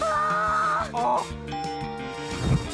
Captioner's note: ding!